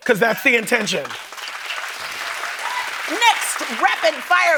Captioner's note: applause